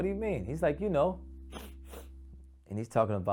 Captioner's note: sniffs